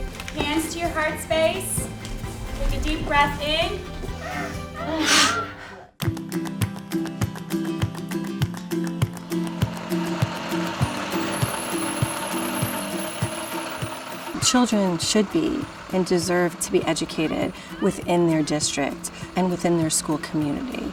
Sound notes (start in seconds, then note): 4.2 inhales, exhales